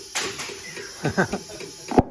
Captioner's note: laughs